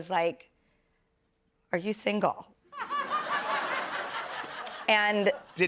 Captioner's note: laughter